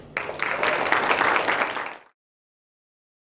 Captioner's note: applause